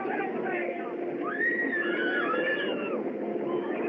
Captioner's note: women Screaming